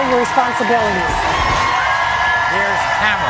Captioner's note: audience cheering